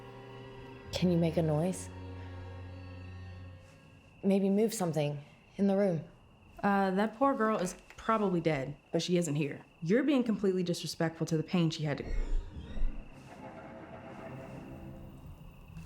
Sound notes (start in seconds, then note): 12.1 suspenseful music; 12.5 object scraping